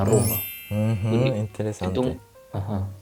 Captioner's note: Italian; Spanish